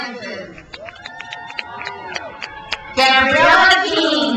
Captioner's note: crowd cheers